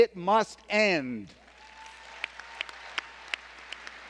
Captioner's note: applause